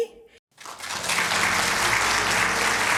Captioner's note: applause